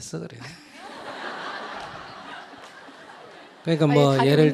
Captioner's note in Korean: 질문자, 청중 웃음